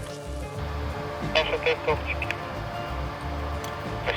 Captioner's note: walkie-Talkie Voice